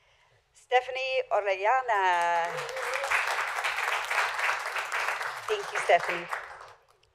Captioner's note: applause